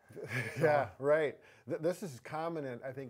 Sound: chuckles

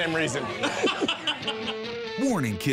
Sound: laughter

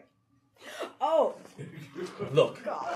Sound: audience laughing

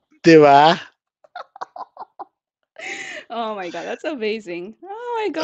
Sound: laughs

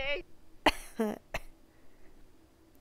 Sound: coughs

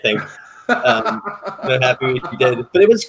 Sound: laughing

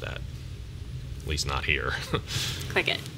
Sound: chuckle

